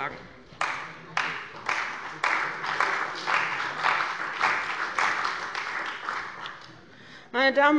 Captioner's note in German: Beifall bei dem BÜNDNIS 90/DIE GRÜNEN und der CDU